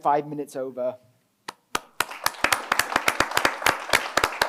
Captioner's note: applause